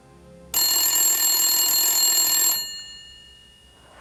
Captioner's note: telephone rings